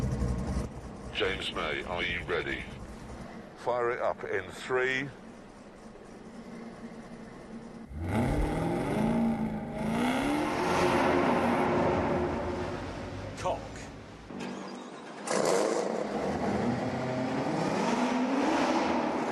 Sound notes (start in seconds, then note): 7.8 engine revs; 12.0 engine stops; 15.2 restarts engine